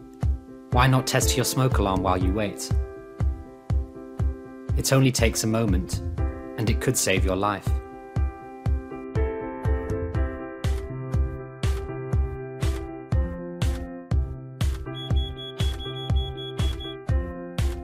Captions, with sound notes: Why not test your smoke alarm while you wait? It only takes a moment and it could save your life. (Beeping)